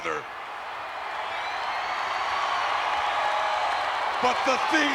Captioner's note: crowd cheering